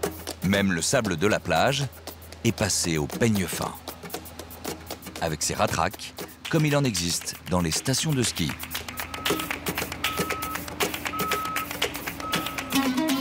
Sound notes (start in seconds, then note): 8.4 applause